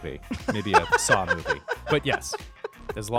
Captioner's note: laughter